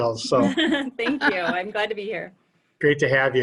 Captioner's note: laughter